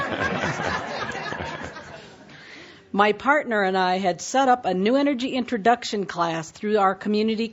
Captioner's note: laughter